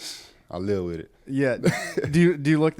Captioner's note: laughs